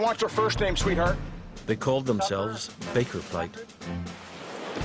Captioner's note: voiceover